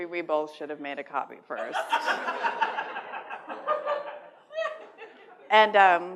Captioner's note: laughter